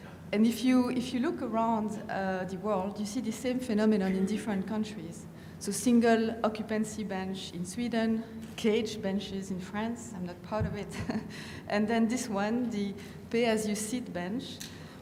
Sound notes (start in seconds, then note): 11.9 laughs